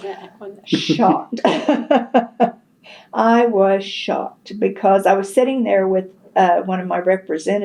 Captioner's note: laughs